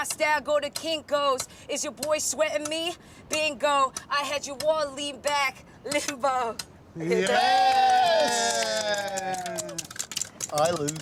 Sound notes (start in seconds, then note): 7.2 cheering